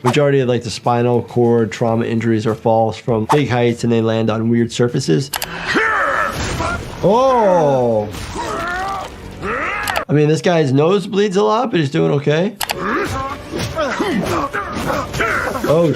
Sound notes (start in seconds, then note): 5.4 Mauler clone grunting; 8.3 bones crunching; 12.7 Mauler clone grunting; 13.7 feet stomping